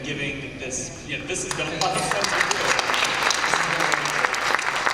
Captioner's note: applause